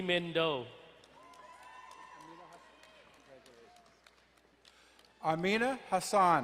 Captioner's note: crowd cheering and applauding